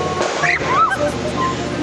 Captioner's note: scream